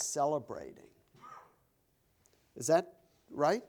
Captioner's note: coughs